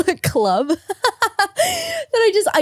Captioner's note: laughing